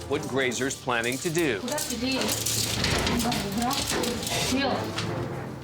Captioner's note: speaking Russian